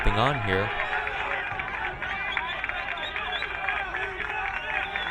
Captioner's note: crowd cheering